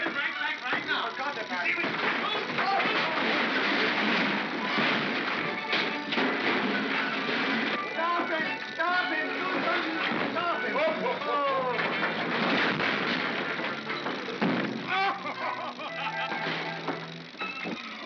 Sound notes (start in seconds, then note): 0.2 chattering sound of gears; 3.2 crashing sound; 10.6 Santa laughs; 12.1 crashing sound; 14.4 thump; 14.8 Santa laughs; 16.3 chattering sound of gears; 17.8 Santa laughs; 17.8 chattering sound of gears